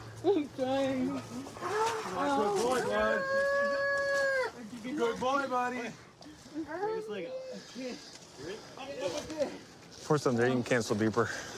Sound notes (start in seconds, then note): 3.2 wails